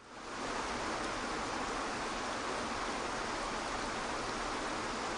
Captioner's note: waterfall rushes